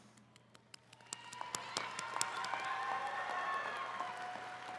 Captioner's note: attendees cheering